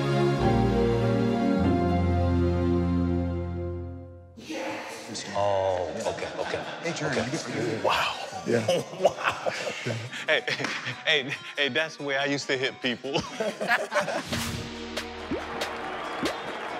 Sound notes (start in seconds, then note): 13.1 laughter